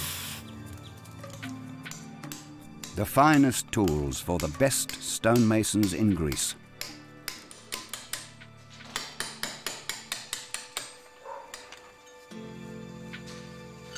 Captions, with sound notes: (chisel clinking) The finest tools for the best stone masons in Greece.